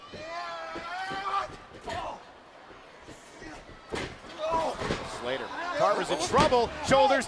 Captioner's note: crowd chatter